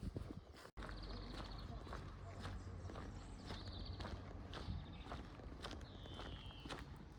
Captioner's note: distant chatter